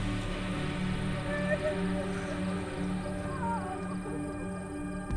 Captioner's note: wailing